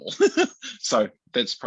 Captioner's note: laughs